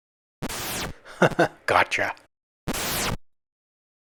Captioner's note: chuckles